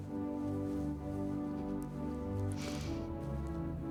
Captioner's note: sniffling